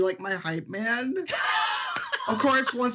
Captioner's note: laughing